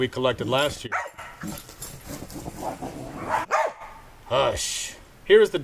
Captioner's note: dogs barking